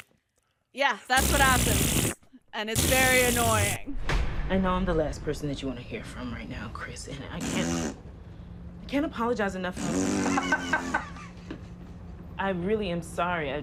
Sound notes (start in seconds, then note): 0.0 makes farting noise; 8.1 makes farting noise; 9.7 louder farting noise; 10.2 laughter